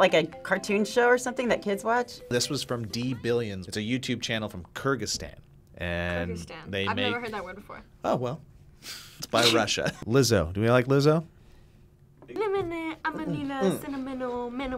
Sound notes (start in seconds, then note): 9.3 laughs